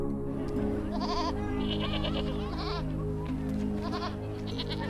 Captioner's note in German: Schafe weinen